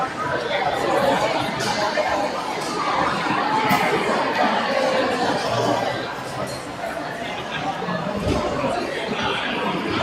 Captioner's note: crowd chattering